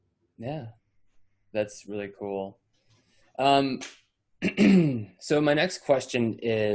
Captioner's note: clears throat